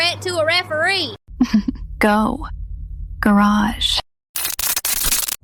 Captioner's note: chuckles